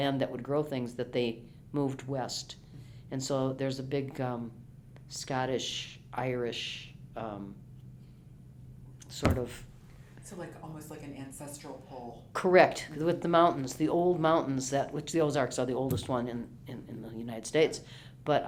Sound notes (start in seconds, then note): 12.4 pat